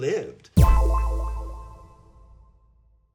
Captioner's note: echoing "boing" sound